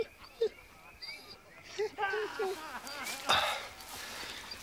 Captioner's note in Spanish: Gemidos